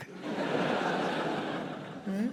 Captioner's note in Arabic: ضحك